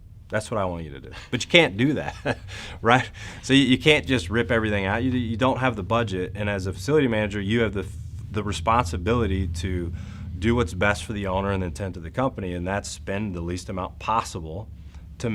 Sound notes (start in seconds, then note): 1.0 man chuckles